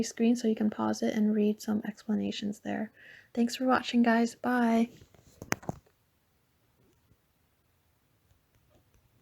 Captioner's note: mic smack